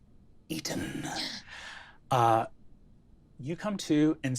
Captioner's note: gasps